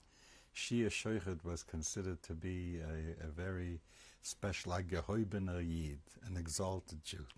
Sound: hebrew

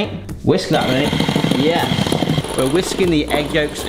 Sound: electric whisk wiring

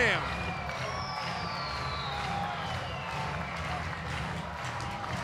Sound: crowd clapping and whistling

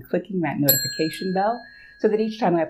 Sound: bell dings

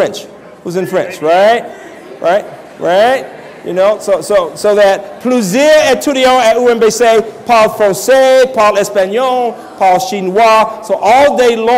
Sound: French language

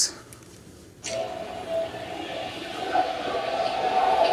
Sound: rumbling

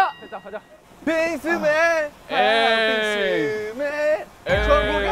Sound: cheering them on

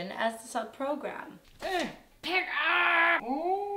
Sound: grunting

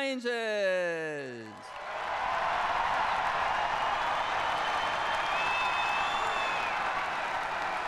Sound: cheers and applause

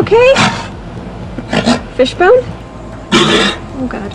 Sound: sea lion exhales heavily, coughs, and gags; sea lion continues gagging; sea lion gags heavily

